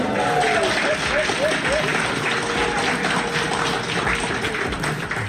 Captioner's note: crowd clapping and cheering